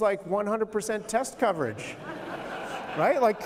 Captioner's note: laughter